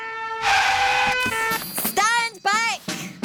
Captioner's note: siren blaring